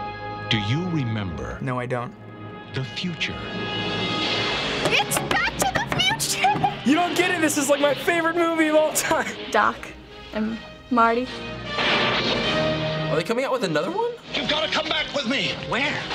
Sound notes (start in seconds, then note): 6.2 laughing; 11.5 lightning crackles